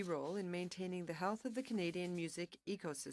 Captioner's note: speaking French